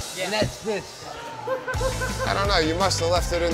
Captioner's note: laughing